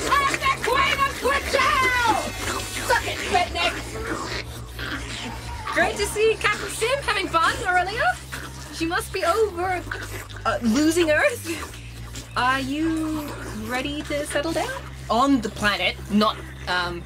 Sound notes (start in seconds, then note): 2.8 obnoxious horns blare